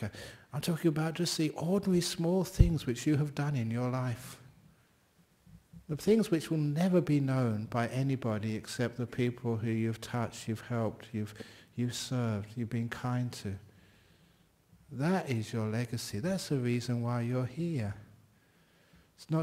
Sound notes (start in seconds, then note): none